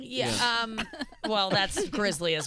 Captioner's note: laughing